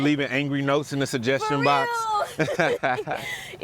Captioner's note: laughs